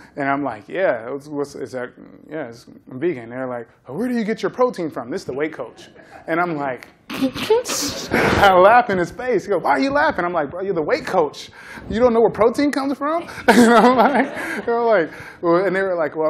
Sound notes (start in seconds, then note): 7.2 laughs; 13.2 laughter